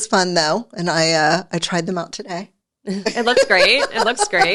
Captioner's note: laughs